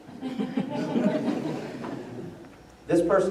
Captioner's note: laughter